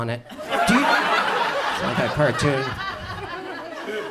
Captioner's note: audience laughs